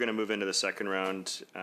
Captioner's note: speaking in French